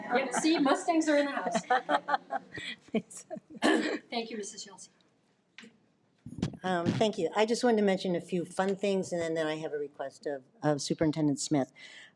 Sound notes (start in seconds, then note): 2.9 laughs